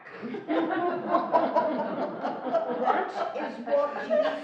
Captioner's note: laughing